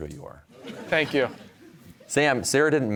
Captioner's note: audience laughing